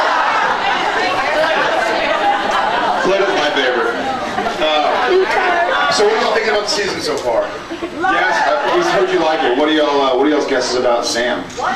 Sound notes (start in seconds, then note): 8.0 scattered cheers